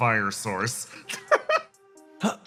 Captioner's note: laugh